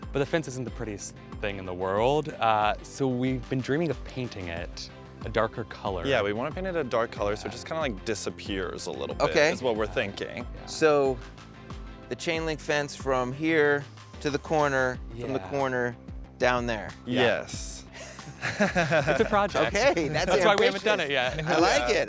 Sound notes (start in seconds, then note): 17.9 Drew chuckles